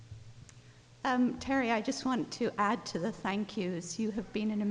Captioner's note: voiceover